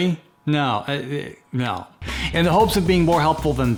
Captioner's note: stammers